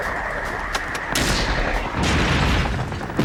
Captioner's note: rocket whooshing; explosions booming